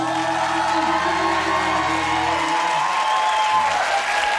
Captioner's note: audience cheering